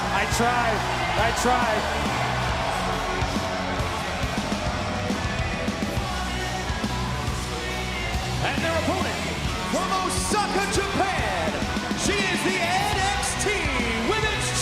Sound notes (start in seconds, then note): 6.8 crowd cheering